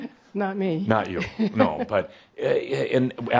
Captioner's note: she chuckles